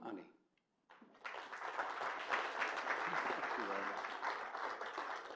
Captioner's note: applause